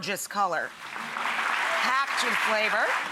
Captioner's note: audience clapping